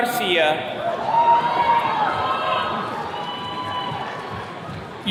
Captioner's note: attendees cheering